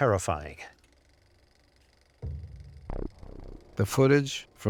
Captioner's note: whirring, crackling